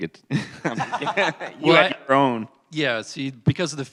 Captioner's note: laughter